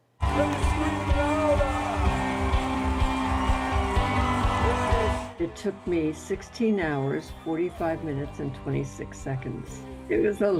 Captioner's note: cheers and Applause